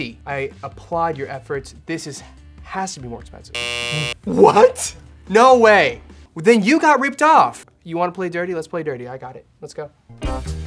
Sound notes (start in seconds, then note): 3.5 buzzer rings